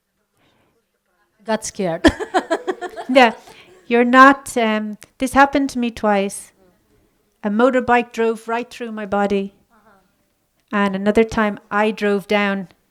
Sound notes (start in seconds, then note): 1.5 laughts